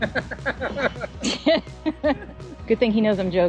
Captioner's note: laughing